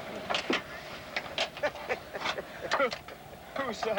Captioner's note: laughs